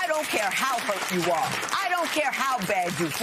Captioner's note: applause